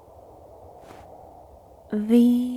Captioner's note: footsteps